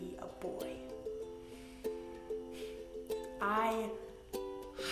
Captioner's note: inhales loudly